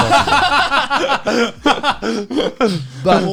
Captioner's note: all laughing